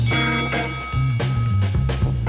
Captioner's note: bell dinging; chill instrumental music